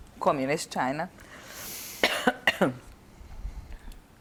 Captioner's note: coughing